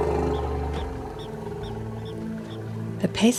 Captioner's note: rumbles; bird chirping